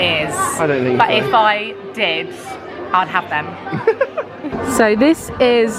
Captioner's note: laughing